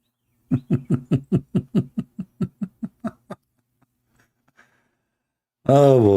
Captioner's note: Ketawa